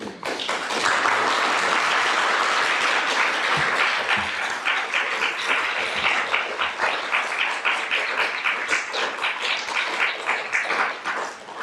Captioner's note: applause